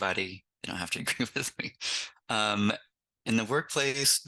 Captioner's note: laughs